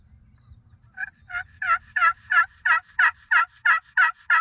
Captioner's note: turkey calling